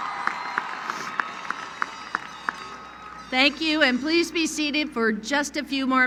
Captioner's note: cheering